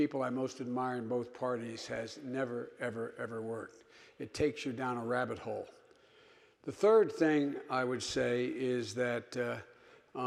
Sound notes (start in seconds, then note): none